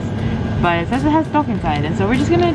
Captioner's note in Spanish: habla extranjera